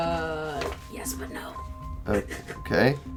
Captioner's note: hisses a whisper